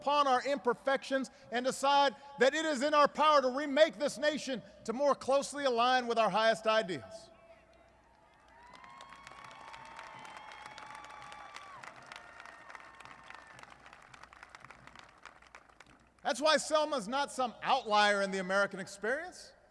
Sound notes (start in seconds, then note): 10.0 applause